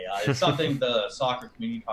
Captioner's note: laughs